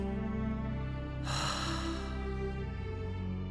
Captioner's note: exhale